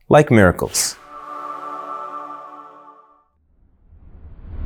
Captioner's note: air whooshing